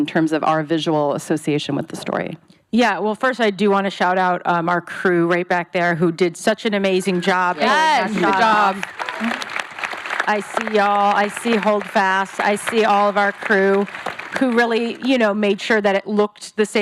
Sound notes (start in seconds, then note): 8.8 applause